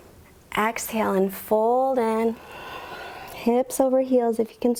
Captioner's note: exhales